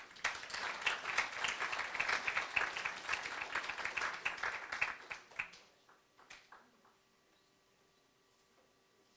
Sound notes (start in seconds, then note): 0.0 applause